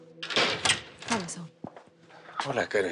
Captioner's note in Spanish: Ruido al abrir